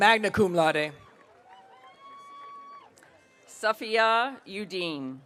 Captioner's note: audience cheering